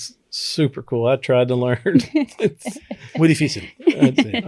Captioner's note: speaking Spanish